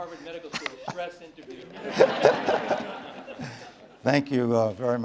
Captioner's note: laughter